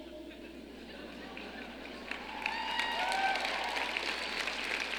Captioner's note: audience clapping